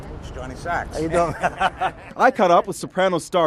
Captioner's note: laughs